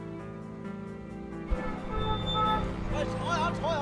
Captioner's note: car horns honking